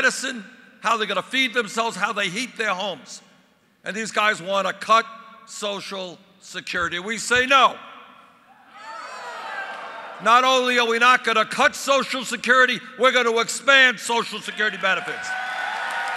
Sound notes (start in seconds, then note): 8.7 crowd yelling “No”